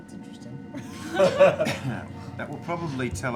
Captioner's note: laughter